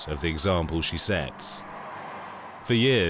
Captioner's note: crowd cheering